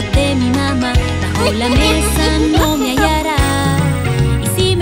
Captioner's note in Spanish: Risas